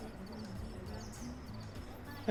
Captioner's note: scoffs